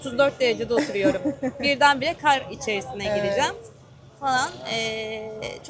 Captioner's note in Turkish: kahkaha